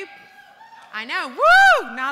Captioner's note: cheers